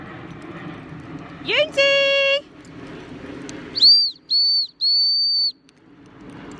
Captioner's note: blows 3 long whistles